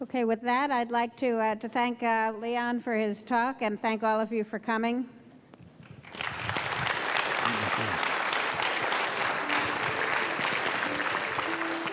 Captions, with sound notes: - Okay, with that I'd like to thank Leon for his talk and thank all of you for coming. (audience applauds)